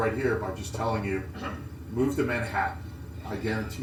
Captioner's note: cough